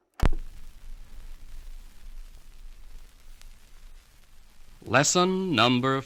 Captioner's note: spinning CD changer